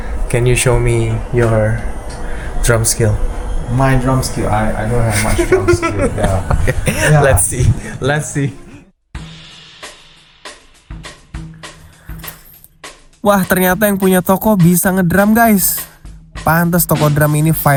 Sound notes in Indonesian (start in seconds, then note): 7.2 tertawa